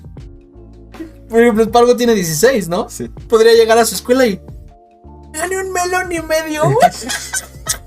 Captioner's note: both laugh in mexican pride